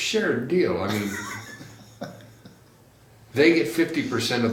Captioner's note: laughs